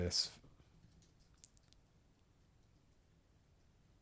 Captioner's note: silence